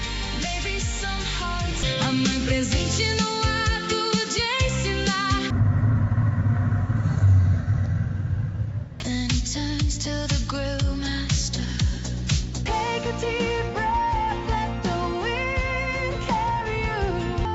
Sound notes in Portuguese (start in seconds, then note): 5.5 Barulho de pneu rodando